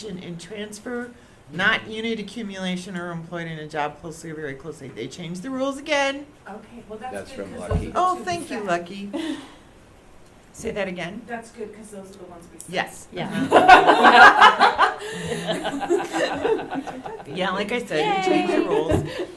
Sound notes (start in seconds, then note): 6.2 background Conversation; 13.3 laughter